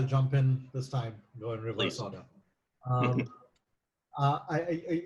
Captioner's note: laughs